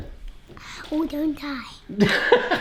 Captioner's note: laughter